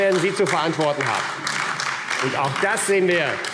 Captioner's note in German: Beifall AfD